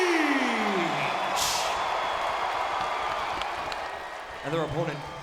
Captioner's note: audience cheering and clapping